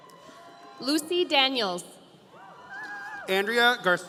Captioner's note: audience cheering